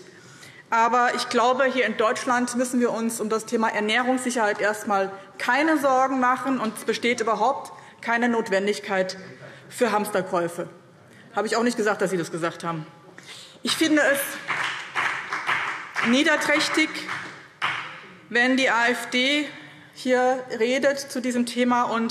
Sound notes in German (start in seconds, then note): 14.2 Beifall BÜNDNIS 90/DIE GRÜNEN